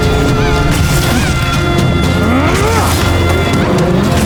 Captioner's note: eko grunting